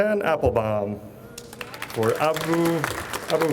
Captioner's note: audience applauds